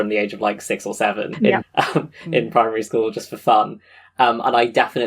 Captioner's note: laughing